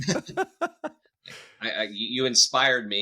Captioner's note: laughing